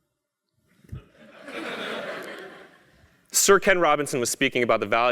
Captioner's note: laugh